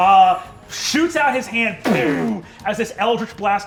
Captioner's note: mimics energy blasting